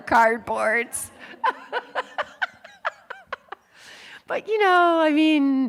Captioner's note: laughing